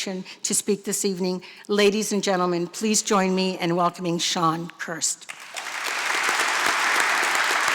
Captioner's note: applause